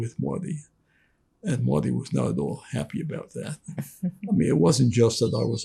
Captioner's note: laughing